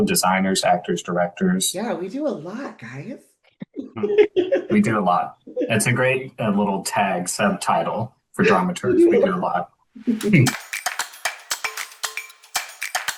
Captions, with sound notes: designers, actors, directors. - Yeah, we do a lot, guys. (chuckles) - We do a lot. It's a great little tag subtitle for dramaturges. We do a lot. (upbeat music)